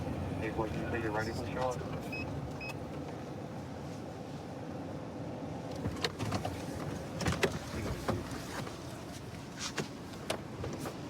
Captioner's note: indistinct dispatch speech